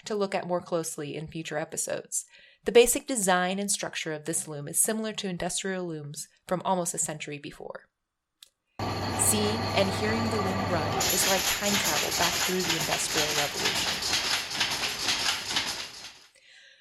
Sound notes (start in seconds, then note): 8.8 machinery noise; 14.5 continued rhythmic clanking noises of the loom